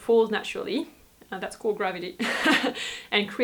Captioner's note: laughs